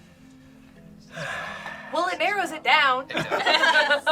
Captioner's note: sighs; group laughs